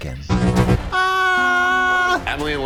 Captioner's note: beep; Katya screams